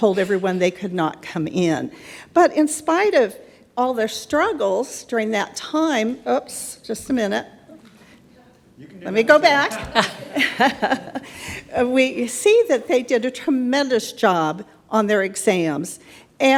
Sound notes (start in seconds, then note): 9.3 laughs